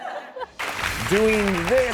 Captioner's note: crowd chuckling lightly; air whooshing